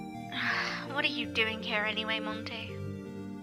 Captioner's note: sigh